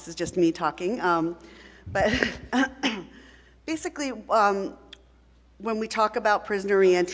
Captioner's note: coughs